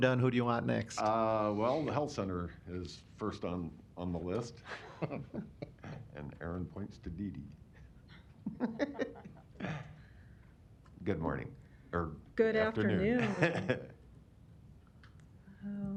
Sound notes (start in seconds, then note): 4.6 laughter; 8.4 laughter